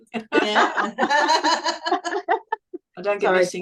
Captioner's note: everyone is laughing